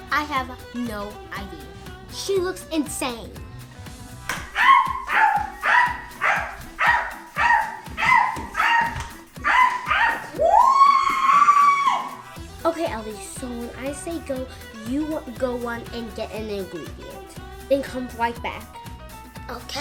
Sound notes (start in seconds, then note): 4.5 barks repeatedly; 9.4 screams